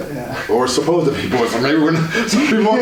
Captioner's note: laughs